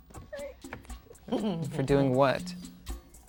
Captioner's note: intense music; chuckles; intense music